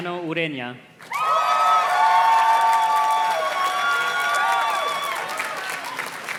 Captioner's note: audience cheers and claps